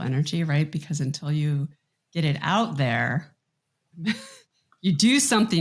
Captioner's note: chuckles